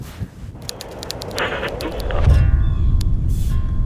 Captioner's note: typing; slow guitar music